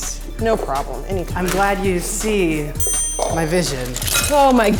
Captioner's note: counter dings